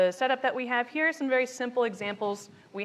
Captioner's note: speaks faintly